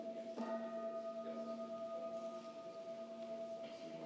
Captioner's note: bell rings